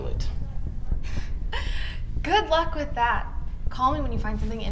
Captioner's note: laughs